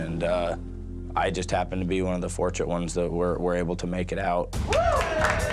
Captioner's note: cheers and applause